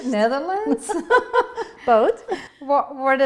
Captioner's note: laughter